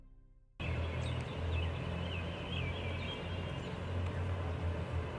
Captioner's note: birds chirping